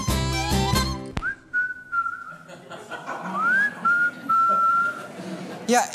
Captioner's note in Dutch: hij fluit